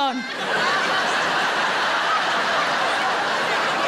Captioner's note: audience laughing